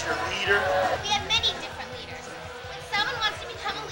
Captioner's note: crowd cheering